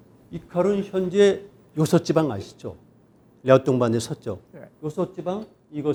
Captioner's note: speaking in Korean